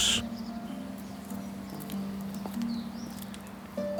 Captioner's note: birds chirping